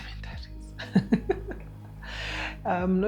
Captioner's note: laughs